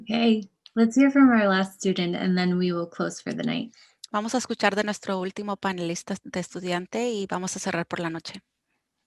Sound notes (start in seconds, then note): 4.5 speaking foreign language